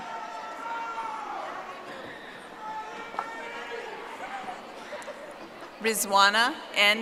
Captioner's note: audience applauding